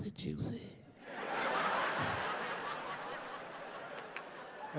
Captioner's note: audience laughing